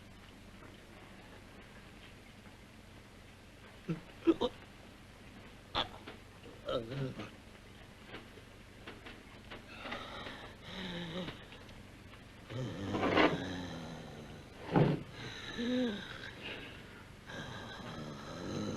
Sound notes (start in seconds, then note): 3.7 gurgling